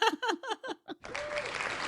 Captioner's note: laughing; audience applauding